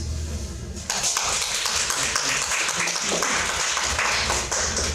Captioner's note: audience clapping